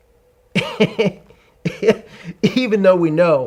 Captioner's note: laughs